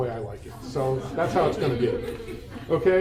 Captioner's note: attendees laugh